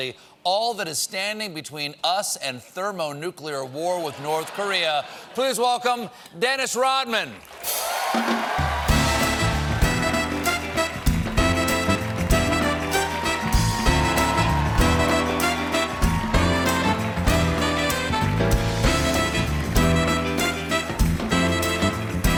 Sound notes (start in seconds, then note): 9.1 applause